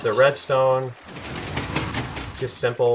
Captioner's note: pistons shifting